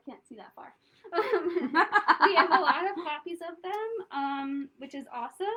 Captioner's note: laughter